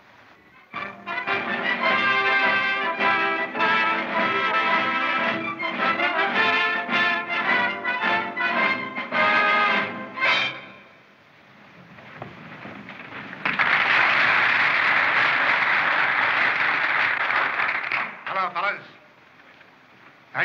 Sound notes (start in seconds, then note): 13.0 applause